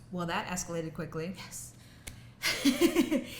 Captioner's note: laughs